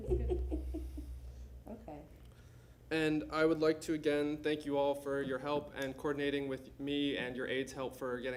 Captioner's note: laughter